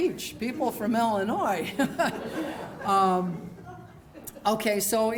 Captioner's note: laughter